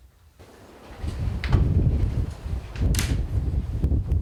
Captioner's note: wind roaring